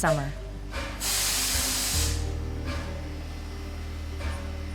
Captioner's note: train chuffing